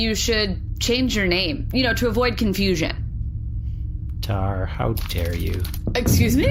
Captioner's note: tranquil anger